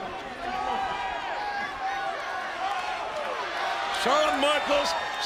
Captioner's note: audience chattering